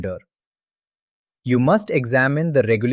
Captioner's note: pause